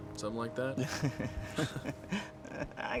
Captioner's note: chuckles